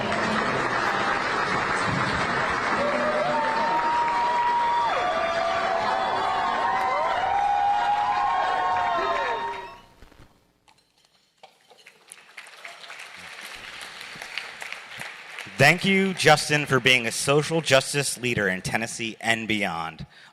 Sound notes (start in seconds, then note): 1.7 cheering; 11.8 applause from attendees